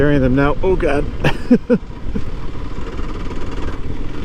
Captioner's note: laughs